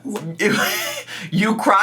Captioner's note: laughs